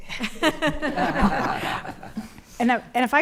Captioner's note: attendees laughing